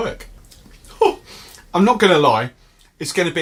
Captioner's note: laughs sharply